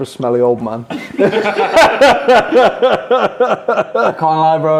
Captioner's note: all laughing